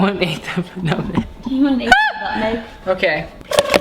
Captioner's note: laughs